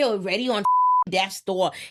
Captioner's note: beep